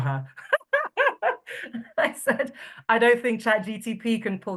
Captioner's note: laughing